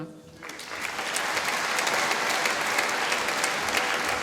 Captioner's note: applause